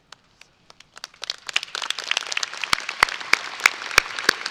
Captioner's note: audience applauding